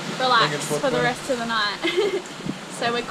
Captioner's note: laughs